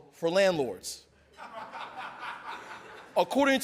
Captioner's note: audience laughing